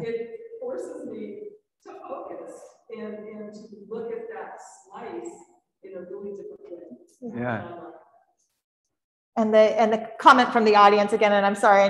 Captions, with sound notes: It forces me to focus and to look at that slice in a really different way (speaks faintly) - And the comment from the audience, again, and I'm sorry,